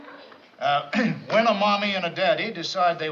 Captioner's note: clears throat